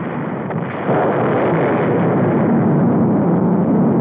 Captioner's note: explosion booming